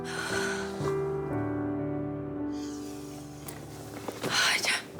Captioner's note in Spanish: exhala